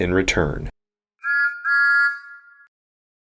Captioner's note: Thomas Whistles